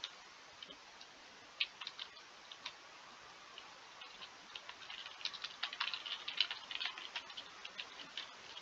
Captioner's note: typing noises!